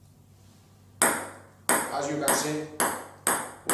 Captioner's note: ball bouncing